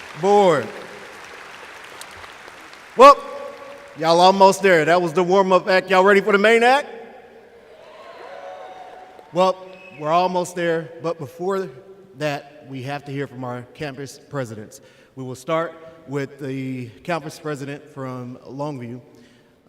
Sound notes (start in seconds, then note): 0.0 applause; 7.6 cheers